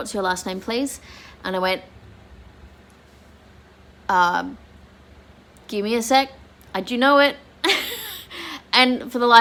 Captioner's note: laughs